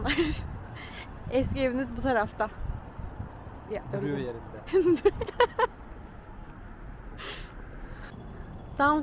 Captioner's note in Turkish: kahkaha